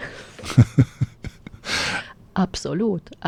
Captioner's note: laughter